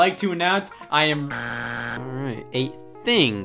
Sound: buzzer beeps

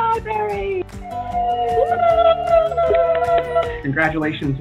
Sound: all cheering

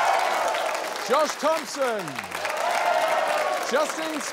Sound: cheering, applause

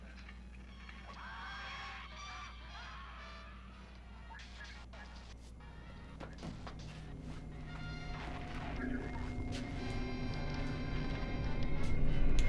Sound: scary movie sounds coming from tv

